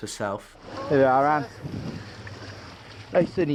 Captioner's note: water trickles